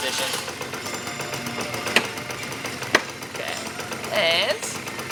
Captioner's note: scooter engine running